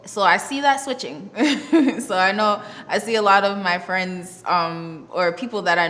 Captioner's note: laughs